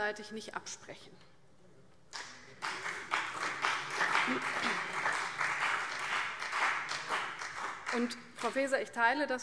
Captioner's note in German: Beifall CDU und BÜNDNIS 90/DIE GRÜNEN